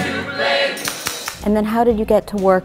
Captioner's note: clapping